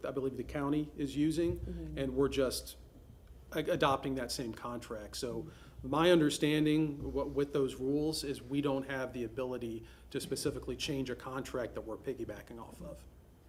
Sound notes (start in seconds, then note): none